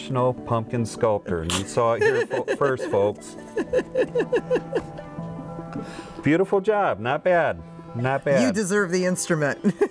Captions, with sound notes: - You are now a professional pumpkin sculptor. (woman laughs) You saw it here first, folks. Beautiful job, not bad, not bad.